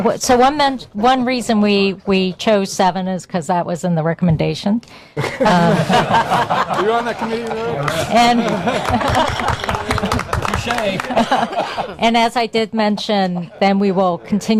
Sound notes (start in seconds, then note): 5.2 laughter; 6.8 applause